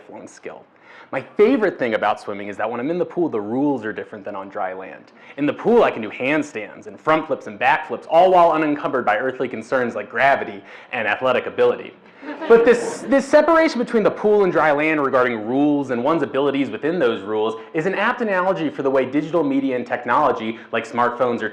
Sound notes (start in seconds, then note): 12.1 audience laugh